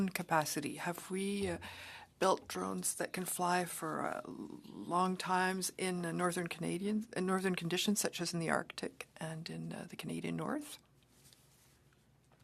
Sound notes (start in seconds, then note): 5.8 speaking French